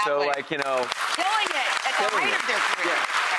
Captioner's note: audience applauds; claps